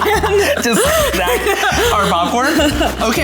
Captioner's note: laughs